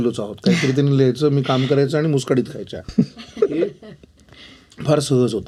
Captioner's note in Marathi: हास्य